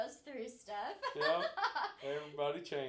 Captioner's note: laughing